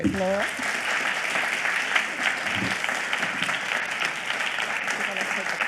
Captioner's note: audience clapping